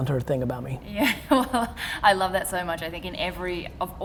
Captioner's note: laughs